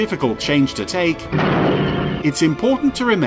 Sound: exploding

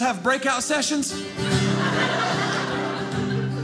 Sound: audience laughing; guitar playing

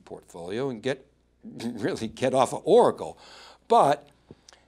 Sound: laughs

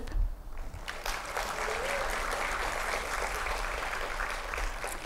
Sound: applause

